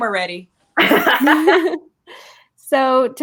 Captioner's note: ladies laughing